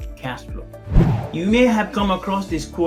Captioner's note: air swooshing